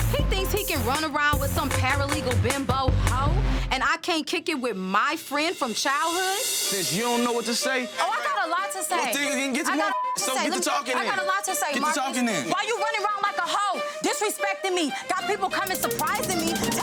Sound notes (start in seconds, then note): 9.4 overlapping chatter; 15.6 beeps